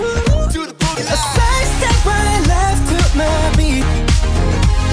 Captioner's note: heartbeat